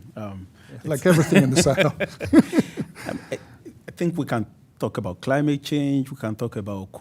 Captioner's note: laughs